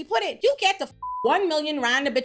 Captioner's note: beep